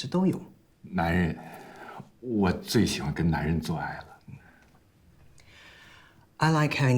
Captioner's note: Calvin speaks in Mandarin; Jian speaking in Mandarin